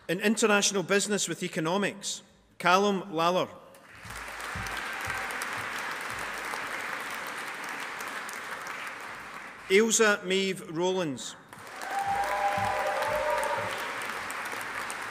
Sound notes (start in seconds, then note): 3.8 audience applauding; 11.5 audience applauding